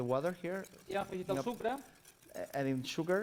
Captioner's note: non-english speech